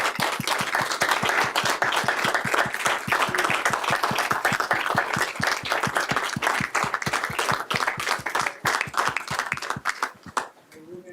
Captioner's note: applause